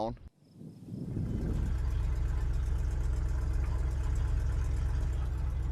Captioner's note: motor purrs